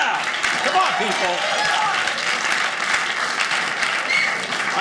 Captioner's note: audience cheering